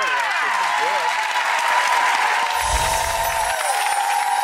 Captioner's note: audience cheering